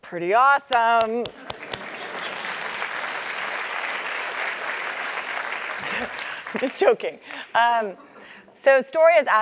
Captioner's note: applause